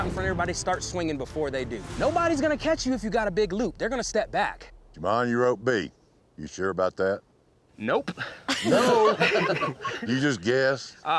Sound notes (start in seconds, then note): 8.5 everyone chuckling